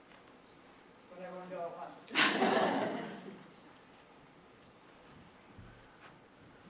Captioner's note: all laugh